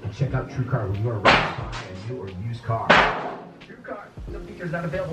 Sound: banging

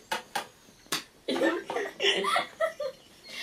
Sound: laughing

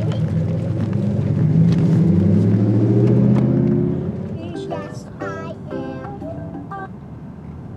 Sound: wind

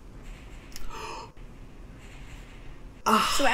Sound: gasps

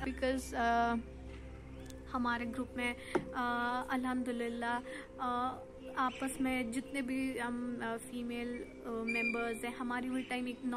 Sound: urdu

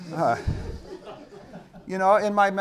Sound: audience laughing

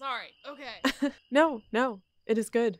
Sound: laughs

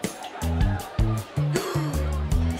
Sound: gasps

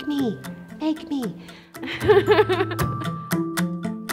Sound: laughter

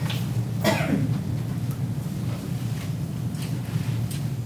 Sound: woman coughs

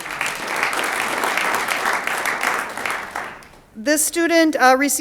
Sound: audience applauds

